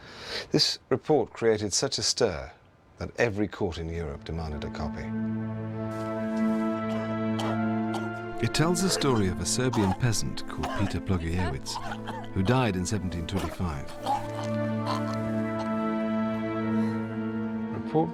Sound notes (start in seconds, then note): 6.1 foreboding music plays; 6.1 man coughing